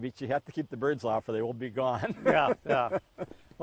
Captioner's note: laughs